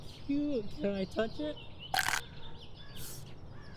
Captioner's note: chomp